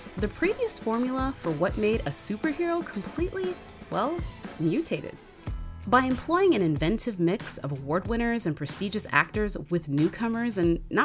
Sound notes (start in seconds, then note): none